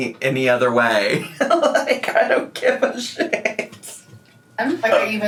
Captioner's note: laughing